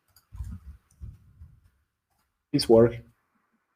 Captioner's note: mouse clicking